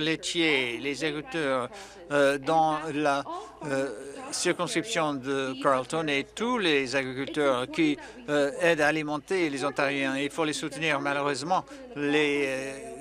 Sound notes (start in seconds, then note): none